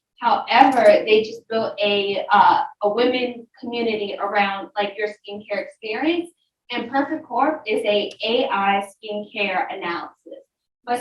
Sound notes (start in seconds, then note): none